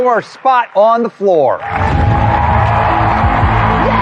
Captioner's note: cheering and applause